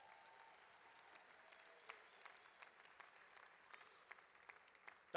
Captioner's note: applause